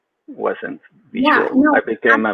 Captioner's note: speaks faintly